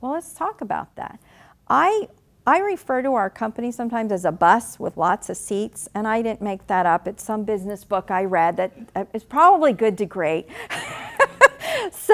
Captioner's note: laughing